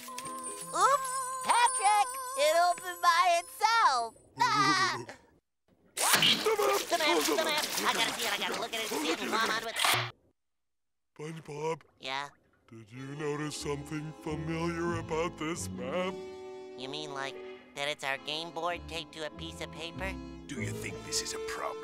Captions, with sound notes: Oops! Patrick, it opened by itself. [laughing] The map, the map, I gotta see it, I gotta look at it. - SpongeBob? - Yeah? Did you notice something familiar about this map? You mean, like that it's our game board taped to a piece of paper? Do you think this is a problem?